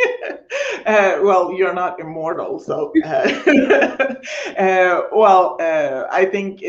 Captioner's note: laughing